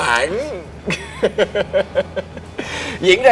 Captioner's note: laugh